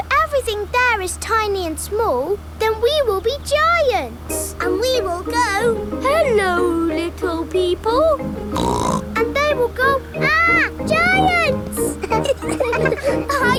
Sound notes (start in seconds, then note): 8.5 snorts; 11.9 all laughing